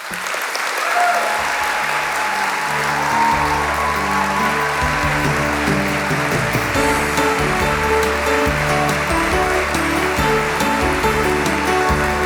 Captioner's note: applause; cheers